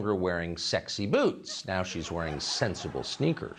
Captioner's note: laughter